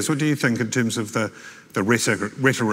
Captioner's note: none